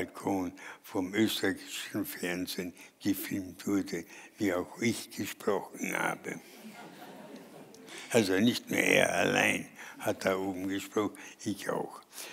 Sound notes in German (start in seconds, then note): 6.5 Vereinzeltes Lachen